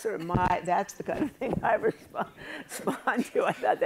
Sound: chuckles

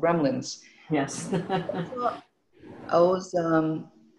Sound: laughs

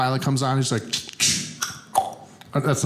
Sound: tongue clicking

